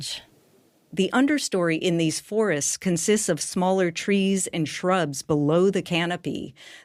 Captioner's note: none